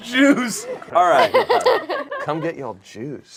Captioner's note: group laughs